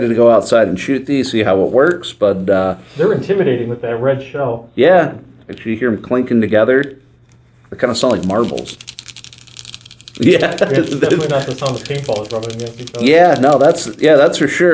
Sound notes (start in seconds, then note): 8.0 paintballs clinking; 10.2 laughs